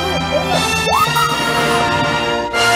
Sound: screams In Fear

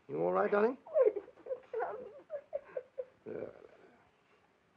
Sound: child whimpering

